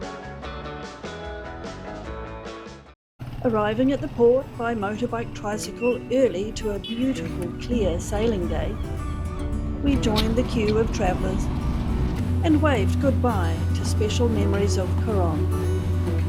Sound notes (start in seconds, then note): 8.3 seagulls calling; 15.0 uplifting music